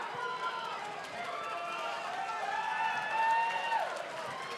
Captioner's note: audience cheering